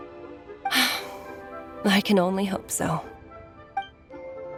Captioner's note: sigh